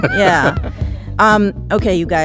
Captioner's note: laughing